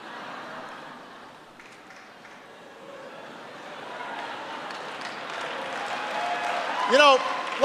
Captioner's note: laughter and applause